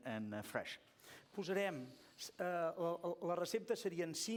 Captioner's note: non-english speech